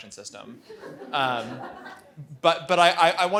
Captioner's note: audience laughs